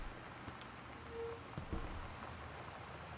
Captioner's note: metal Scraping